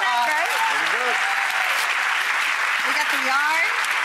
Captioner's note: audience applauding; paper ripping